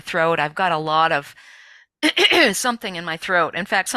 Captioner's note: clears throat